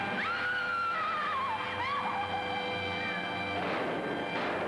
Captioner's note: Joan screaming; gunshots banging